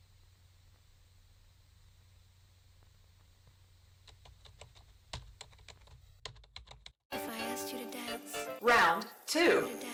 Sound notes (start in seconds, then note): 4.5 typing